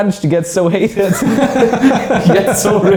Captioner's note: laughs